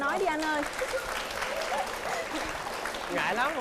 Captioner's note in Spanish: Aplauso